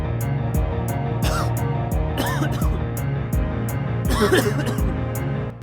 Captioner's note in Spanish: Sonido de tos